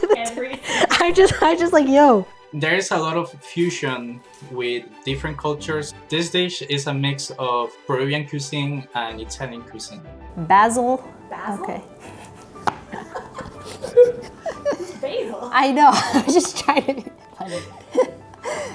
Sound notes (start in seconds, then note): 11.9 laugh; 18.0 laughs